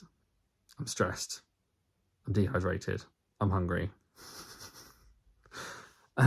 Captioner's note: laughs